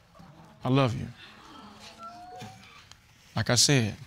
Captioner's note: audience gasps